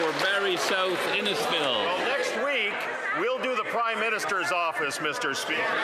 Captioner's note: some Applause